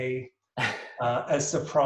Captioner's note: laughs